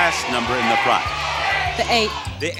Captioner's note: audience yelling